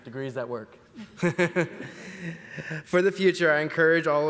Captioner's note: laughs